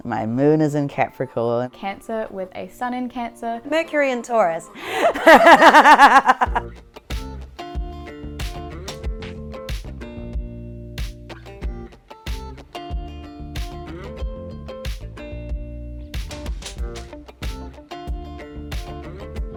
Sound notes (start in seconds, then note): 4.8 laughing; 6.7 upbeat music